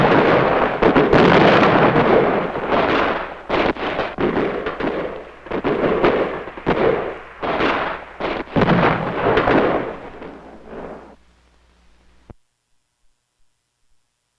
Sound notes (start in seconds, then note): 3.1 explosion booming; 3.1 missile whistling; 9.3 explosions booming; 9.3 guns blasting